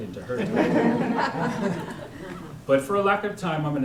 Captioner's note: laughter